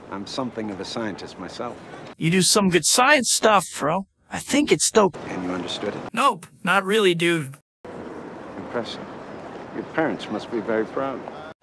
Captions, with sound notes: I'm something of a scientist myself. You do some good science stuff, bro! I think it's dope! And you understood it?! Nope! Not really, dude. *Sarcastically* Impressive... *Sarcastically* Your parents must be very proud.